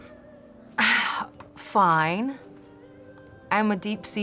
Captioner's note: scoffs